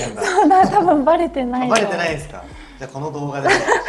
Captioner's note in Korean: 웃음